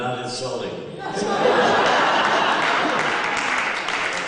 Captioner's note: laughter and applause